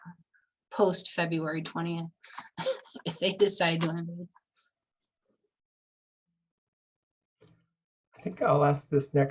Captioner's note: laughter